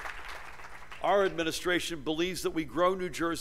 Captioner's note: applause